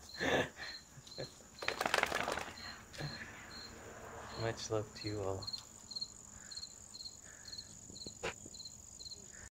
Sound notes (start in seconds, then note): 3.3 laughter